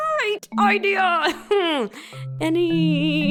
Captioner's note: laughs in pain